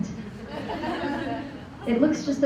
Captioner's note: laughter